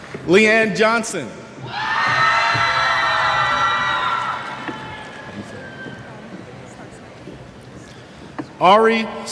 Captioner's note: cheers